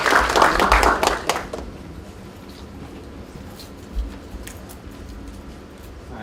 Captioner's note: applause